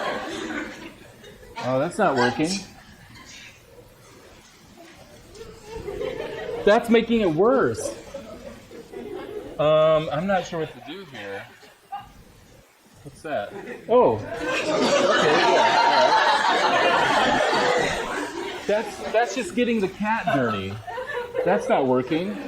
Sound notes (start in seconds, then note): 17.5 laughter